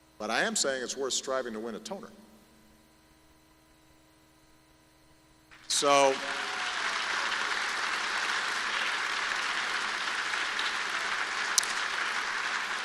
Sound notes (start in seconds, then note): 7.6 applause